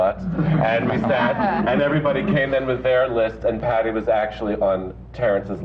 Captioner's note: laughter